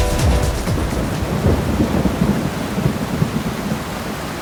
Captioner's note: thunderstorms